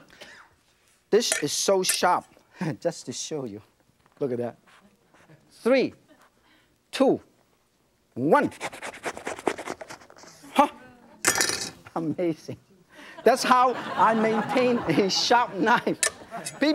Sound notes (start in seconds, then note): 8.4 knife saws; 13.0 audience laughs